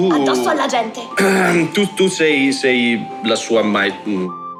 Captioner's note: clears his throat